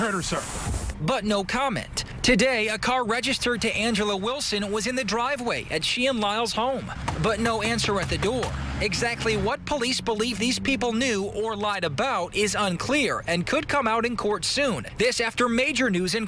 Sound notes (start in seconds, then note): 7.4 knocking nats